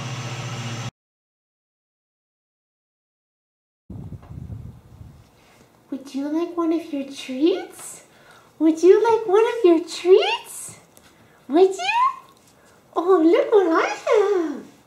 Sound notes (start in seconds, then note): none